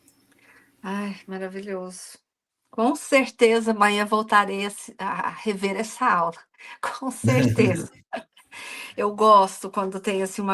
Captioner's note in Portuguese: risadas